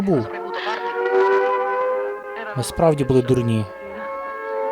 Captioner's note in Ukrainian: сирена